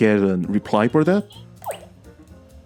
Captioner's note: mouse clicks